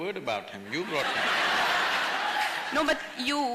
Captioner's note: laughter